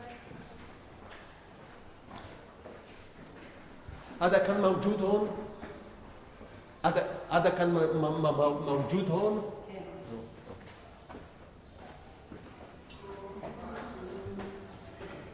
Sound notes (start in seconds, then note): 4.6 Arabic